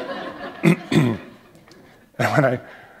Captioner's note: laughter